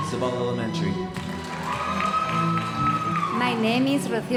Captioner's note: audience applauding